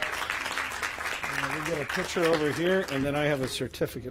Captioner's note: applause